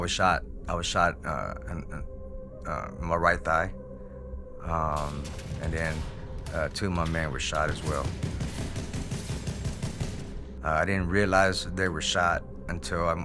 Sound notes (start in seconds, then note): 8.1 gunfire